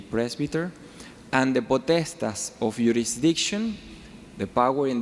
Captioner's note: speaking foreign language